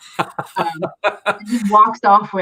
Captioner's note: laughs